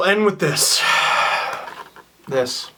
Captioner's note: sigh